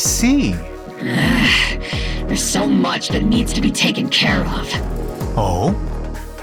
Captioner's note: sigh